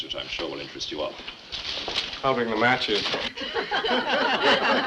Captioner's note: laughter